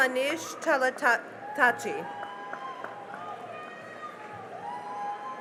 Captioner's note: cheering and applause